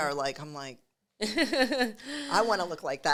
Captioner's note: laughs